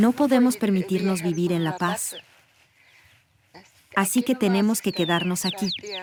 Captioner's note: villager speaking in foreign language